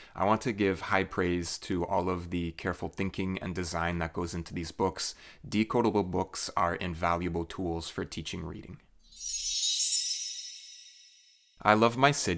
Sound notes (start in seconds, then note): 9.0 chime